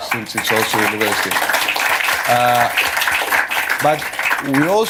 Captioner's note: applause